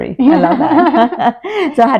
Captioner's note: laughter